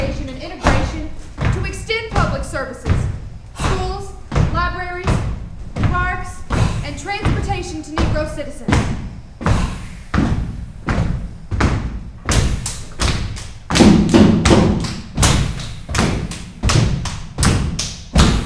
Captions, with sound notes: and integration to extend public services, schools, libraries, parks, and transportation to Negro citizens. (actors clapping) (actors stomping)